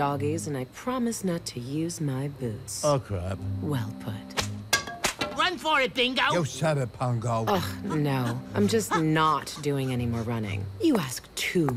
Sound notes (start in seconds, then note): 4.3 whip snaps; 4.6 pool cues fall